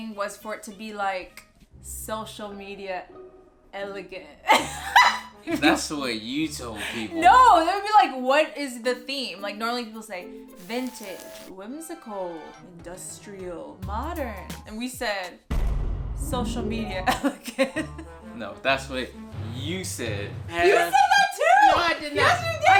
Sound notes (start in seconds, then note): 4.5 laughs; 17.1 laughs